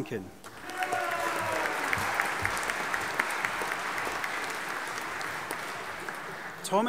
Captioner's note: audience applauding and cheering